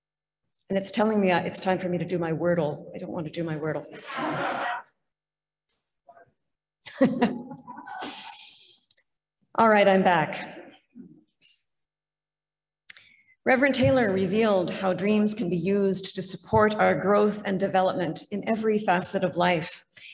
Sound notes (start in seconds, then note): 5.0 laughter; 7.0 laughs